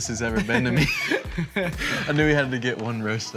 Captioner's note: boys laughing